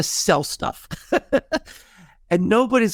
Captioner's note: laughing